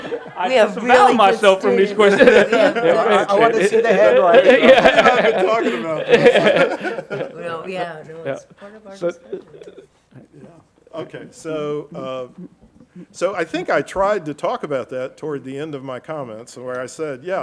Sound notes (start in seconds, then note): 0.0 everybody laughing; 4.4 everybody laughing; 6.7 everybody laughing; 9.6 faintly speaking